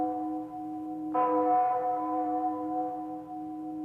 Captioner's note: bell tolls